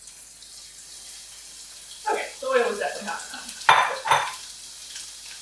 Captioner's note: carrots sizzling